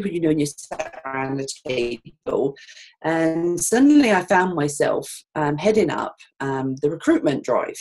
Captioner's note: audio skips 0:11:25